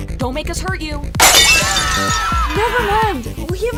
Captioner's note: everyone screaming